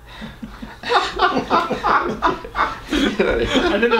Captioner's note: laughing